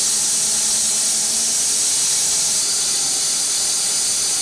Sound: saw whirring continues

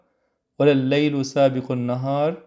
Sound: Arabic

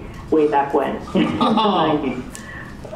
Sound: laughter

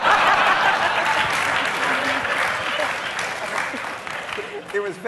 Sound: audience laughing; audience clapping

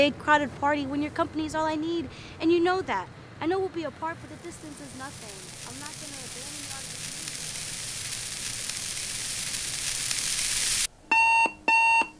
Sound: Tara's excited talking fades to white noise; alarm clock

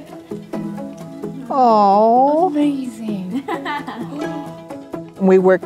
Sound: laughter

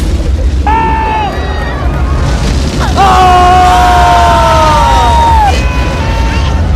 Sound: all Scream

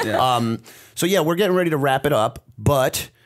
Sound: chuckle

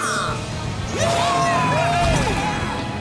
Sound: cheering

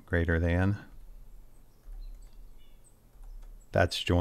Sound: keyboard chattering

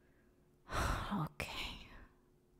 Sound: sigh

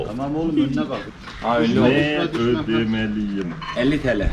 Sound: in local language

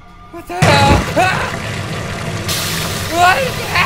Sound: ominous music; water splashing

